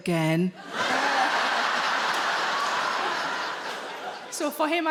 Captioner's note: audience laughing